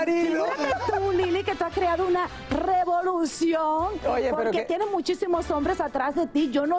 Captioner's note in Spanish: risas